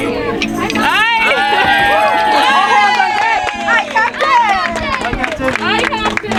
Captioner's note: audience cheering